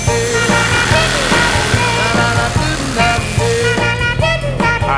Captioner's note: upbeat soul music; saw whirring